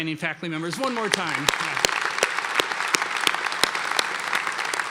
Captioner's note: applause